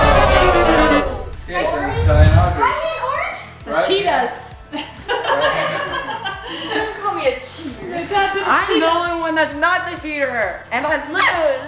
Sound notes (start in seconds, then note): 0.2 defeated horn plays; 5.1 laughs